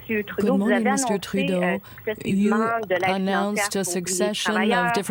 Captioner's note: speaking french